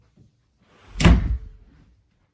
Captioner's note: door slam